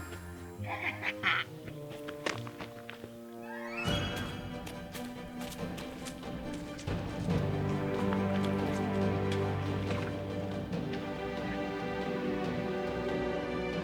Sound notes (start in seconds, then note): 0.6 laughs; 5.6 drums